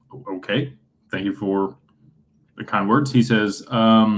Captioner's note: clears throat